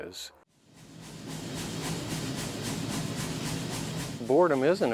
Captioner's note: machine bangs